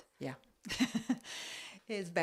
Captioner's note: laught